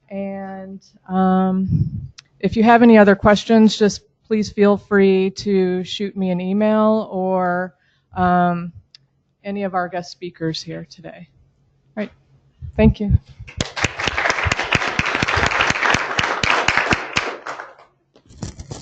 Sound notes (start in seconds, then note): 13.4 applause